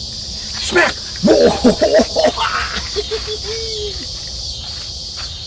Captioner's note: crazy gardener sounds